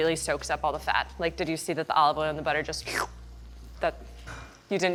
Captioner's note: slurps